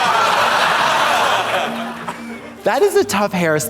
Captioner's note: audience laughs